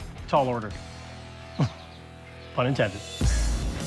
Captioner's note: laughs